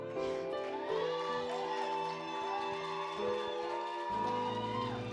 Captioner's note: audience cheering and clapping